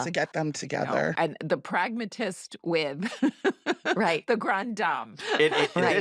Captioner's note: chuckles